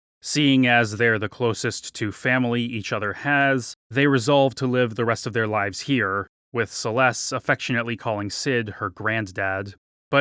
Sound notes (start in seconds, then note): none